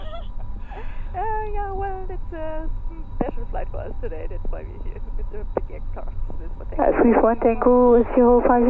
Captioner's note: laughs